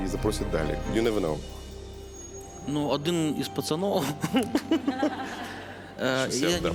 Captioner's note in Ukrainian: сміх